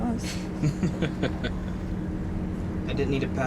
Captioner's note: chuckling